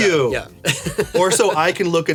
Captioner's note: laughs